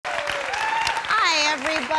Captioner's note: audience clapping